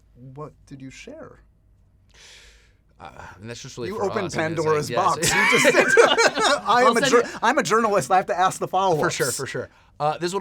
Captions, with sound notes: - What did you share? - And that's just really- You opened Pandora's Box. You just said- [LAUGHTER] I'm a journalist. I have to ask the followups. - For sure. For sure.